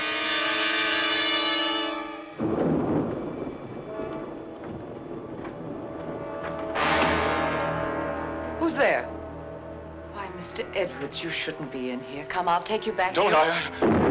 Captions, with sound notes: (suspenseful music continues) (thunder rumbling) (door rattling) - Who's there? Why, Mr. Edwards, you shouldn't be in here. Come, I'll take you back. - No, don't.